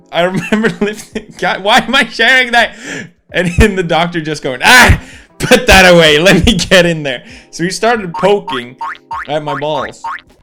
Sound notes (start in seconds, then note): 2.7 inhale; 8.8 poking sound effects